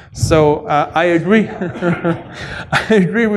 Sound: laughter

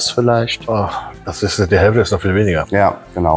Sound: sigh

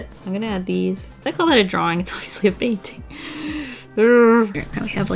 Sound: deep inhale

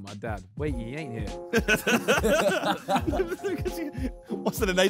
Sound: laughing

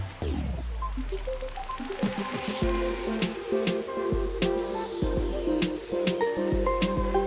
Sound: waterfall in background

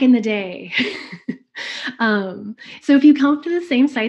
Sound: laughs

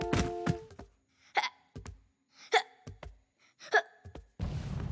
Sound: hiccups; thundering footsteps

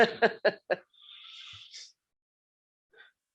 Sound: laughing

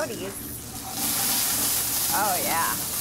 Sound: pan sizzles

